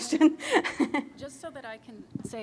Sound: chuckle

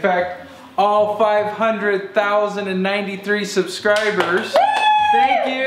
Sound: cheers

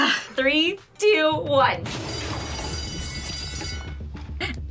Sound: bell rings

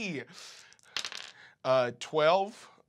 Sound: dice clack

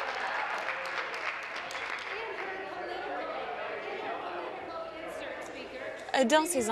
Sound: applause

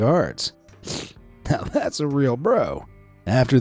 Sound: sniffing

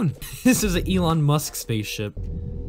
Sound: laughing

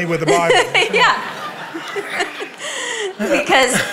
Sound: laughing

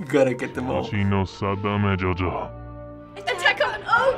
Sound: voice-over speaking gibberish

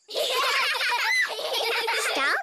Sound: laugh

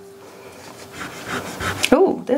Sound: eraser rubbing

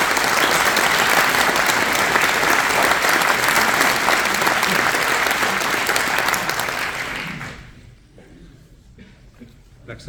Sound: applause

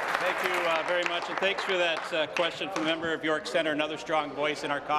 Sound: applause

